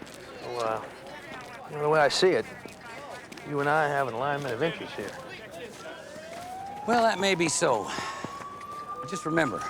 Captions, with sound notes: So, uh, the way I see it, you and I have an alignment of interests here. (sighs) - Well, that may be so.